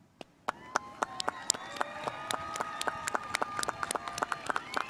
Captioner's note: spectators applauding